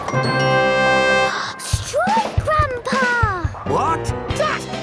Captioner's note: gasps